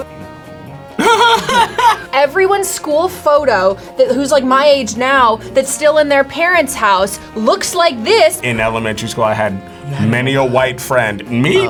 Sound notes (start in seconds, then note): 0.1 smooth uptempo music; 1.0 laughs